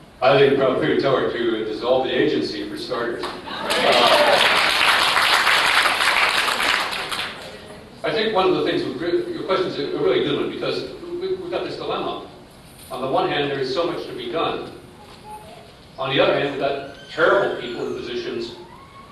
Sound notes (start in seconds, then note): 3.4 laughter; 3.6 applause